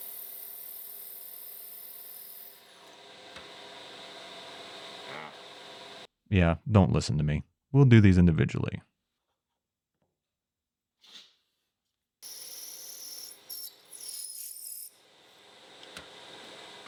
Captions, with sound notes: Yeah, don't listen to me. We'll do these individually. (driller whirring)